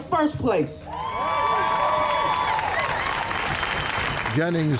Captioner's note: crowd cheering